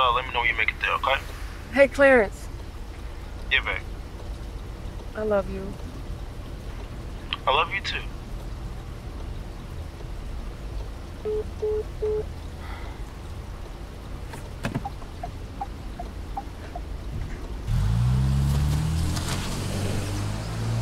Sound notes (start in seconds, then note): 11.2 phone beeps; 14.2 turn signal clicking; 15.7 engine revving